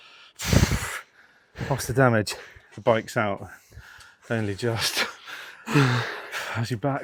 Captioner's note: blowing